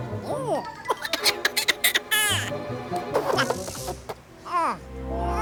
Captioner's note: coughing